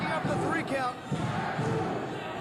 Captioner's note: cheers and applause